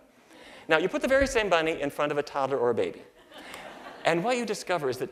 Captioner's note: laughter